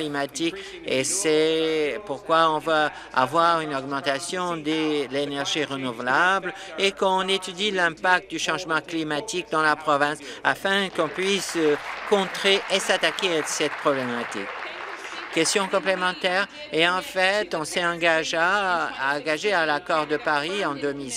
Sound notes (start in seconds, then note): 15.6 applause